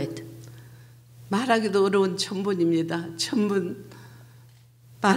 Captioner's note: speaking foreign language